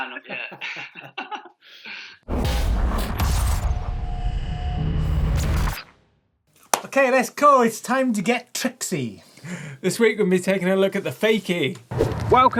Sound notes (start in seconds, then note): 0.0 both laughing; 2.4 electronic whirring